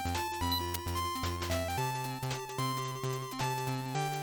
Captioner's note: click click